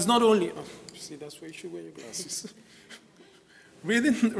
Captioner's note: chuckles